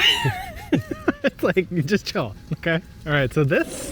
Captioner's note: laughing